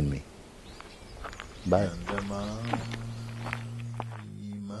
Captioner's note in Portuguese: Som dos passos a afastarem